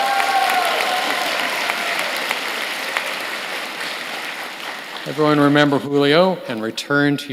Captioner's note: applause